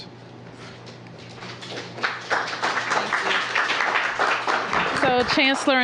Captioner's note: applause